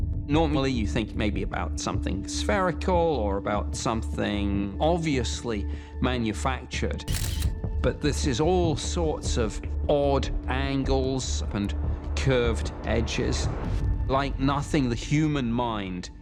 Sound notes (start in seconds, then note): 7.0 camera shutter